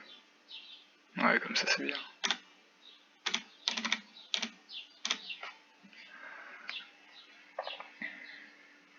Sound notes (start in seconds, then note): 3.2 bunch of mixed *chirps and *clicks; 6.6 chirp